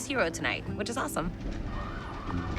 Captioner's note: sirens sounding